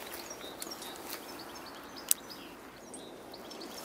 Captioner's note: clicking